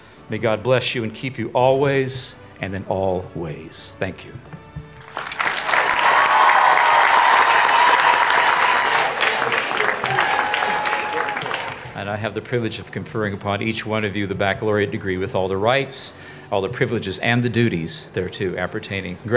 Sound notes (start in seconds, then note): 5.0 everyone applauds